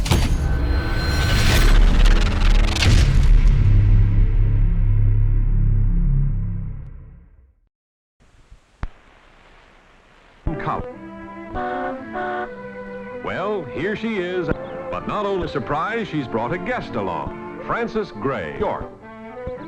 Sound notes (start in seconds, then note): 11.5 car horn honking; 12.1 lighthearted music